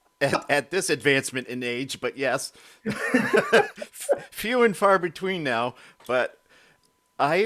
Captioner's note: both laughing